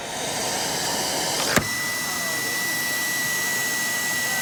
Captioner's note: vacuum whirring